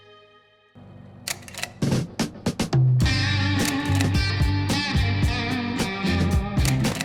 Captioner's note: slide reel clicking; upbeat rock music